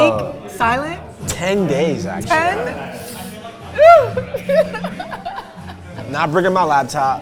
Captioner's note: laughs